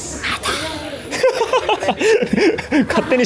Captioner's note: laughs